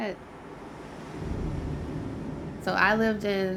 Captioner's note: whooshes of heavy wind